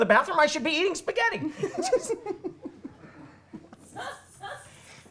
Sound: laughter

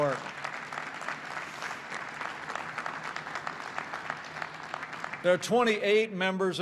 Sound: applause

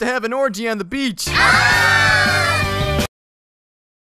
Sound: enthusiastic yelling

